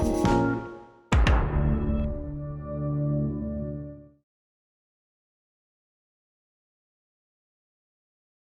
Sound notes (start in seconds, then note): 1.5 logo pings